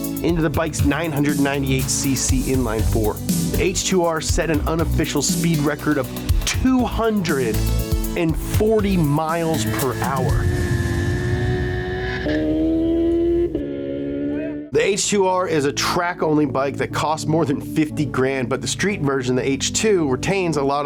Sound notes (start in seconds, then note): 10.4 motor bike roars